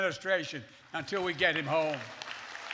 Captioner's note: applause